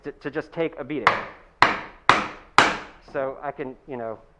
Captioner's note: hammer banging